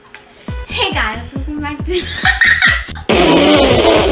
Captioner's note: laughs